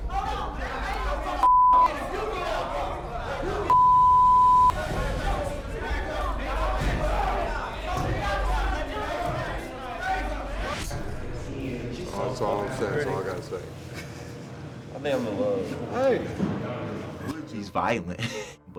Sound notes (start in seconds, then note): 1.8 men yelling